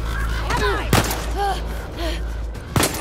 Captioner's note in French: bang